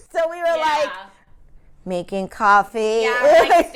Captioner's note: robot voice